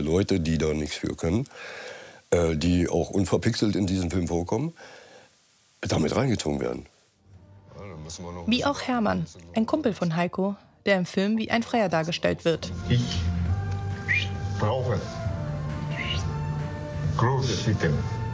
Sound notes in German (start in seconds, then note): 13.9 Er pfeift; 15.4 Dynamische Musik